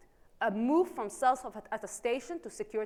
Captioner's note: faintly speaking